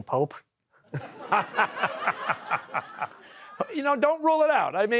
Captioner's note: laughter